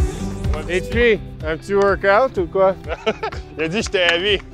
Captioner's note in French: rires